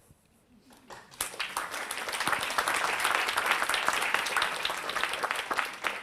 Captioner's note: audience applauds